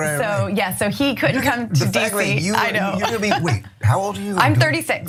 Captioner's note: laugh